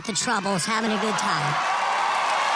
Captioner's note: applause